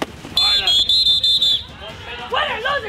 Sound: drill instructor blows whistle

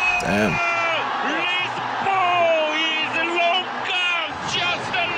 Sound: sportscaster in thick accent

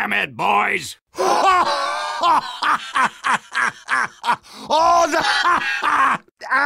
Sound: Demoman laughing

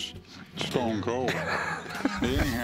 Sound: laughs

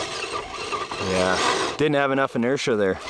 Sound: wheels spinning

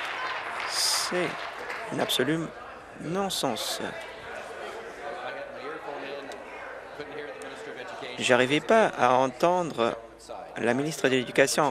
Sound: applause

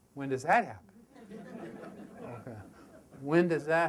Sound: audience laughter

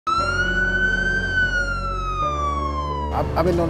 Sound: sirens

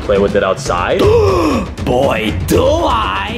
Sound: gasps

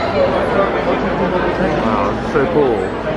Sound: people chattering

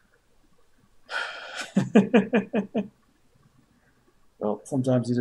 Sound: sighs and laughs

